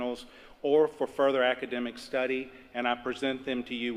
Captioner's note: none